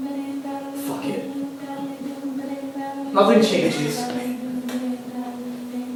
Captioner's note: autotune hard out